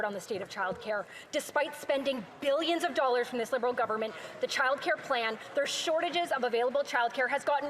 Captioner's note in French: voix de l'interprète